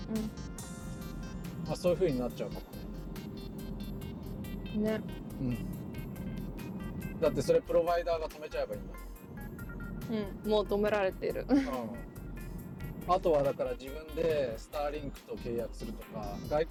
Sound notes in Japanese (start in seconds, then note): 11.5 苦笑